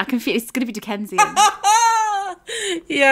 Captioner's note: laughing